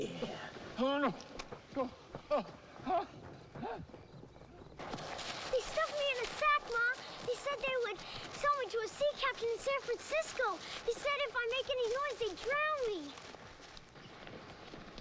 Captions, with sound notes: Yeah. - Oh, no, no. (Hezekiah sputtering) - They stuck me in a sack, Ma. They said they would sell me to a sea captain in San Francisco. They said if I make any noise, they'd drown me!